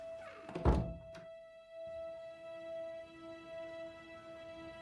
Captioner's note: dramatic orchestral music continues; door clicking